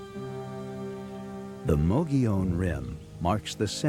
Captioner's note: voiceover